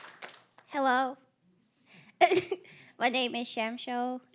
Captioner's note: applause; giggling nervously